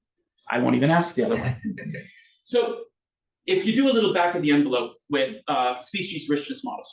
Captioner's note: audience laughs